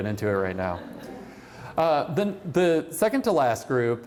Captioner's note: laughter